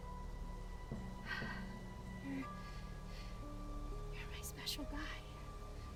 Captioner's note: sighs